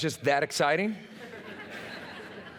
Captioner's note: laughter